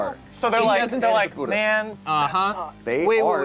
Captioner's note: overlapping chattering